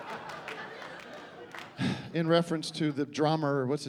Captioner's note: sighs